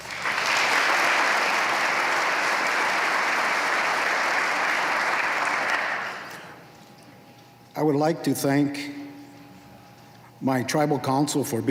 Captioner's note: applause